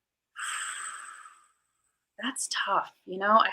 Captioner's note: exhales